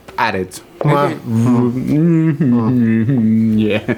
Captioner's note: mimics a "Mmmmmm" sound